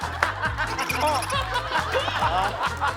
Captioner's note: laughing